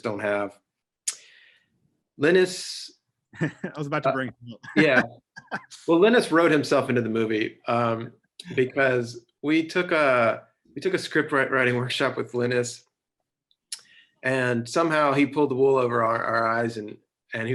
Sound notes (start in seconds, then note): 4.5 laughing